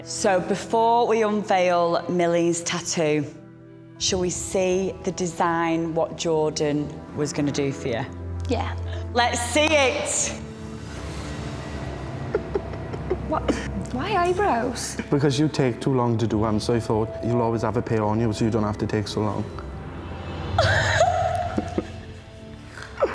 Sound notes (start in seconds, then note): 12.2 laughter; 20.6 laughs